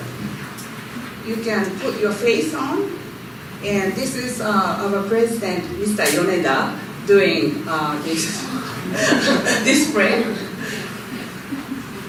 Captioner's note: laughter